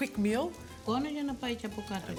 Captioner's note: speaking in greek